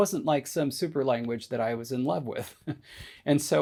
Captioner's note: chuckles